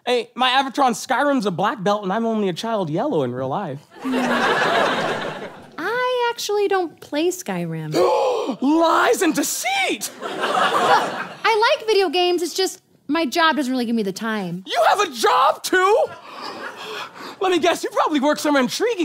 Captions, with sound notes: my avatar in Skyrim's a black belt and I'm only a child yellow in real life. [audience laughs] - I actually don't play Skyrim. - [huge gasp] Lies and deceit! - No, I like video games, it's just my job doesn't really give me the time. - You have a job too! Let me guess, you probably work somewhere intriguing